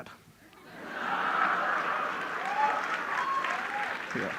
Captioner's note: laughter and applause from the public